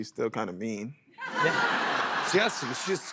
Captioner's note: laughter